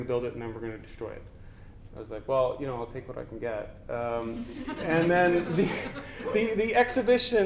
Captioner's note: audience: Laughter